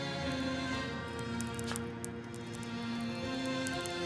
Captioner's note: water pattering